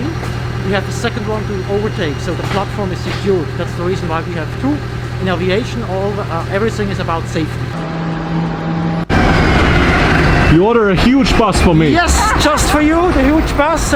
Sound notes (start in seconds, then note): 9.4 bus rumbling